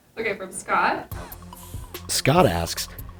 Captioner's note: voiceover